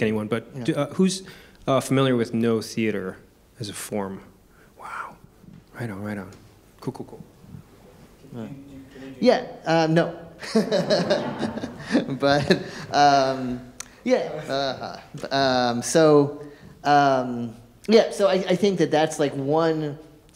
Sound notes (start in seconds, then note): 10.4 audience laughing; 10.4 laughs